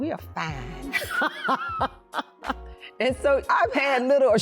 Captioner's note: laughing